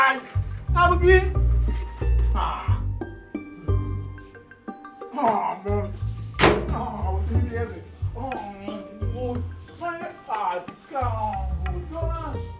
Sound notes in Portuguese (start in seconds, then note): 5.9 microwave door closes; 12.4 constant beating